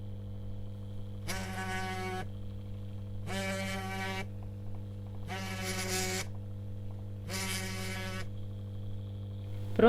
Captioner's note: phone vibration